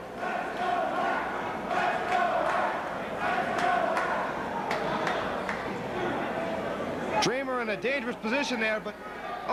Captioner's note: crowd chatter